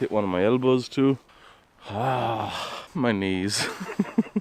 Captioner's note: purrs like a mountain Lion